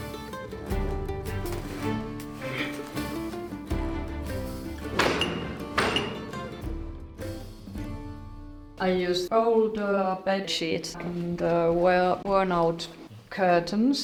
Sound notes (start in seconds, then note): 0.0 bright music continues; 4.8 loom clanking